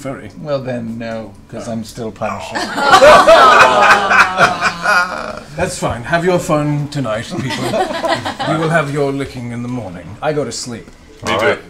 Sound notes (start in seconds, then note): 2.5 laughter